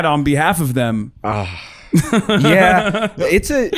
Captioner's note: sighs